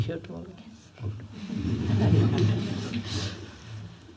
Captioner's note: laughter